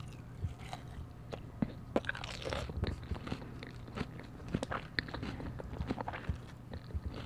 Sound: crunch crunch

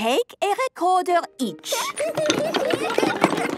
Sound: laughter

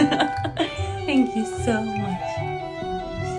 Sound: laugh

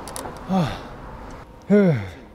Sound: deep breathing sounds

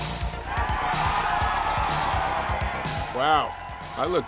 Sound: upbeat music; crowd cheers

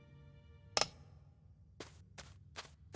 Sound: click

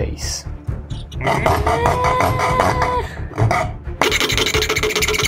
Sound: loud cutting

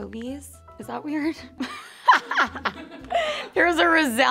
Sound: laughing

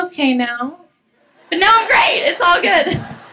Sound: laughs

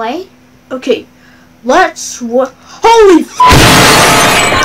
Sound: beep cutoff

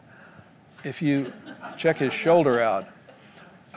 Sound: laughter

